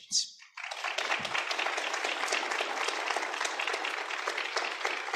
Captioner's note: applause